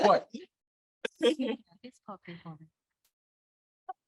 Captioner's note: all laughing